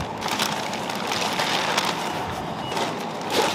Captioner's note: bag rustling